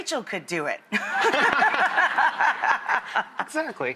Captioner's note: laughter